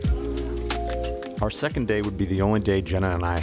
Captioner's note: voiceover